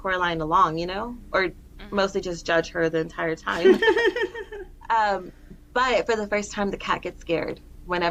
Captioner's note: laughter